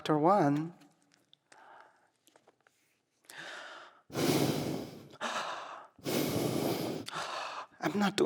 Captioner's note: heavy breathing